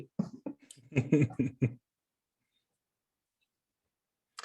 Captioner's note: chuckles